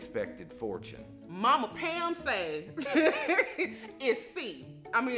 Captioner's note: laughing